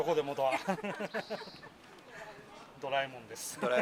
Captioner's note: laughs